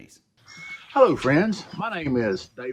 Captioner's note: birds chirping